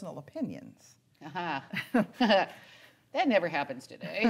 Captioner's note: laughing